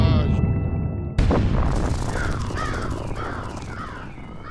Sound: banging, crows cawing; car alarm beeping

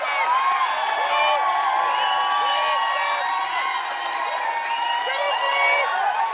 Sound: audience cheering

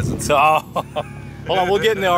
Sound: laughter

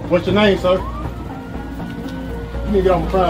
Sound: sirens

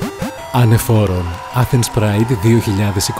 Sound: crowd cheering

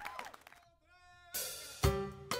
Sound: applause

